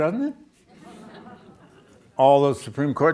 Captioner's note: audience laughs